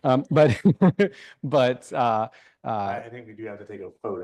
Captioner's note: laughing